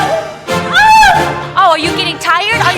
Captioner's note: Lucy shouting